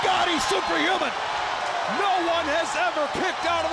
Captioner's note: crowd cheering